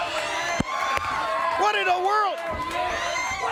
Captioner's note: crowd cheering